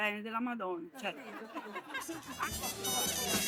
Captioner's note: laughter; jazz music playing